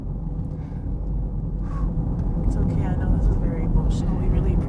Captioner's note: exhales